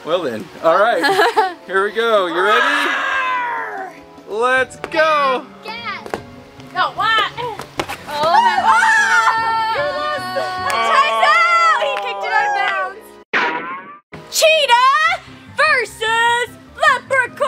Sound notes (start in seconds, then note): 3.5 growls; 13.3 rubber band sound effect